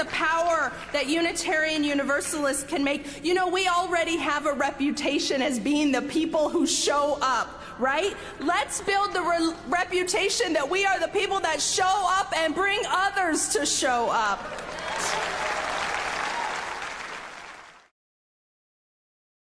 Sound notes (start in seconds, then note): 14.4 audience applauding